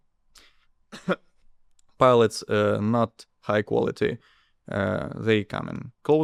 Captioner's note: coughs